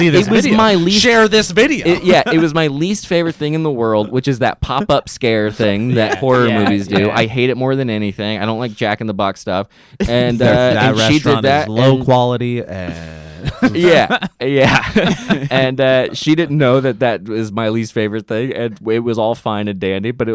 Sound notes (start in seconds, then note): 14.6 laughs